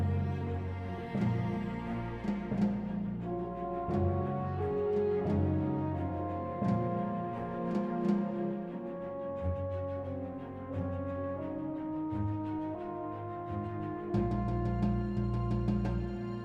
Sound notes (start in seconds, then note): none